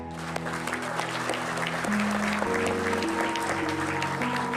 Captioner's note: audience applauding